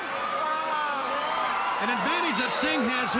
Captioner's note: crowd cheering